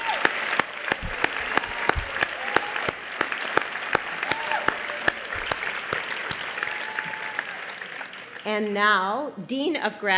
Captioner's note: applause